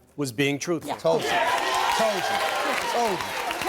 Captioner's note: audience applauding and cheering